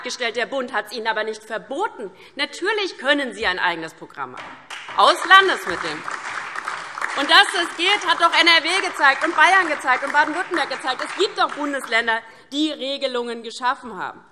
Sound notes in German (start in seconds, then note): 6.1 Beifall